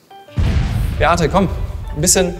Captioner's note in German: Detonationsgeräusch